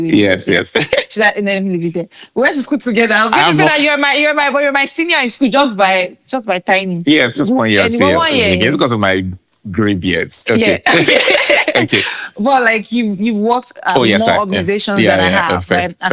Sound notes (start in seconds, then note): 10.5 laughing